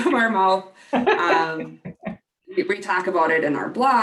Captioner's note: laugh